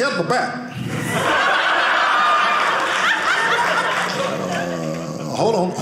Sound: audience laughing

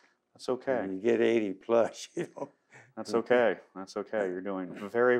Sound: laughs

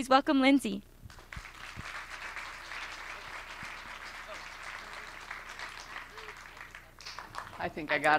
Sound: applause

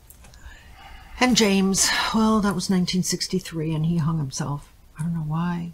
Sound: sighs

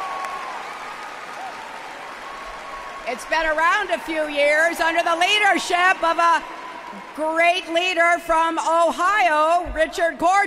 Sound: applause

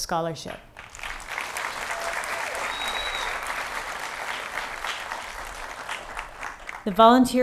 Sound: applause

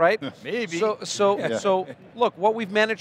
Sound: laughing

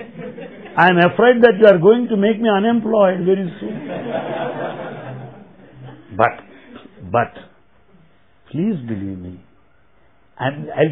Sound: laughter

